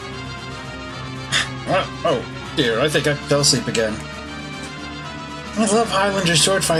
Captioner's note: snort